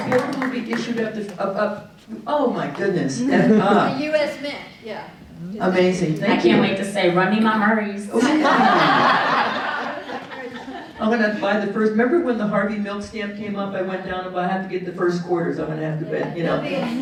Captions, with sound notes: A quarter will be issued at the, oh my goodness. The US Mint, yeah. Amazing. Thank you. I can't wait to say, run me my Murrays. (audience laughing) I'm gonna buy the first. Remember when the Harvey Milk stamp came up, I went down, but I have to get the first quarters, I'm gonna have to be-